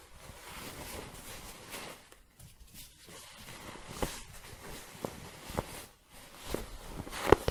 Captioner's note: shuffling and scratching